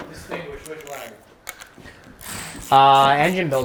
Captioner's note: ratchet clicking